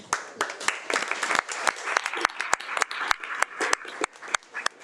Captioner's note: audience applauding